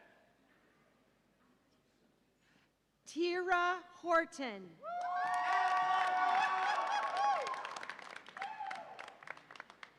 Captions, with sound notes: Tiira Horton. (audience applauds and cheers)